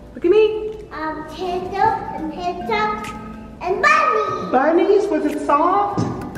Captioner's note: babbling